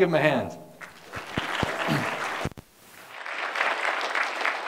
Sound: applause

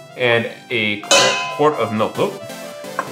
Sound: pot clangs

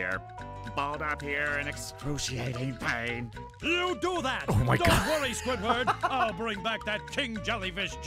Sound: laughs

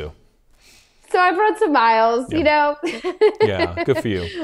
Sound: laughs

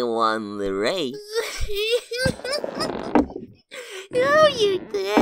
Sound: giggles

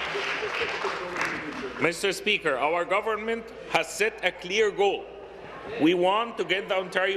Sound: applause

